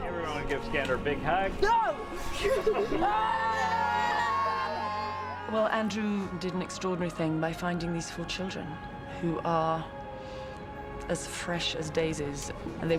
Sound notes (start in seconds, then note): 3.1 all exclaiming